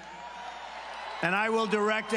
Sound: cheering and applause

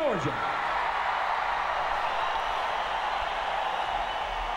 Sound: audience cheers

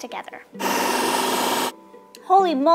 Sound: blender whirring

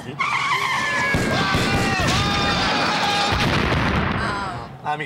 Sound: explosions and gunfire

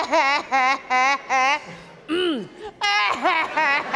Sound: clears throat, resumes weeping; audience laughing

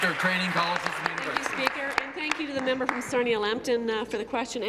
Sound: applause

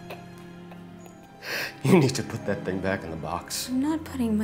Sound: laughing

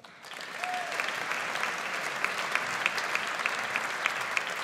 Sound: audience applauds

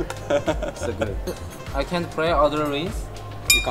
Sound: mouth full

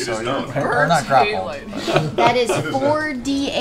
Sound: laughs

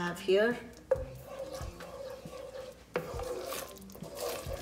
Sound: spoon scraping

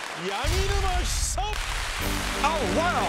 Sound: applause

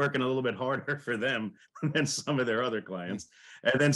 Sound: laughs

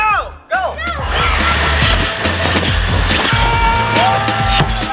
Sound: Zippy engine revving; all yelling

